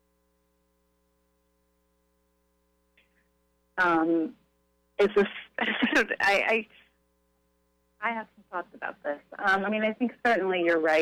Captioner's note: silence